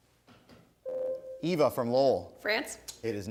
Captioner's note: ding